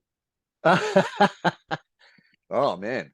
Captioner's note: laughing